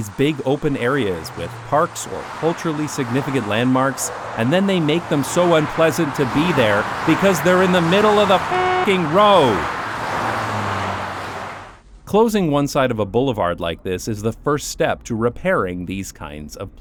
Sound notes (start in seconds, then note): 9.9 honk